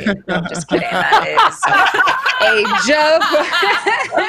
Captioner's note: laughing